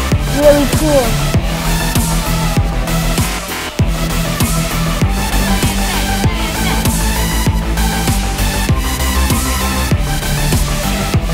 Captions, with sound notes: - It's really cool! (audience cheering) (dramatic music continues)